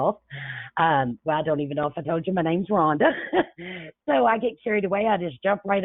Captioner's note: chuckles